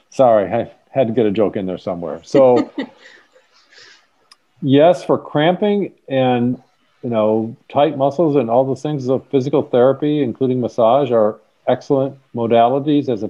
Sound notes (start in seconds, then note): 2.3 laughs